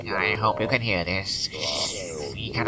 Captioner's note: radio-interference